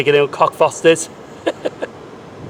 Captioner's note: laughs